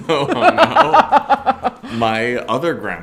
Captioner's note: both laugh